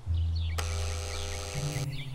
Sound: buzzing

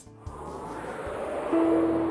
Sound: whooshes; calm music

